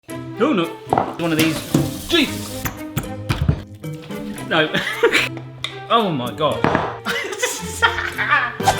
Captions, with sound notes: - Oh no. One of these, Jesus. (banging) No (laughing) Oh my god. (laughing)